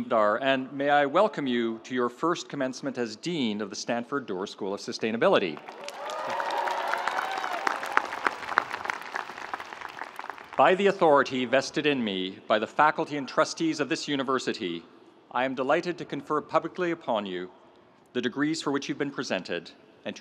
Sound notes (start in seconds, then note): 5.6 audience applauding; 5.6 audience cheering